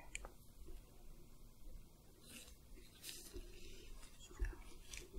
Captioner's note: soft brushing, sticky sounds